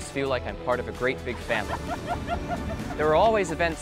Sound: students laughing

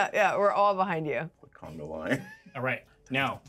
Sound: chuckles

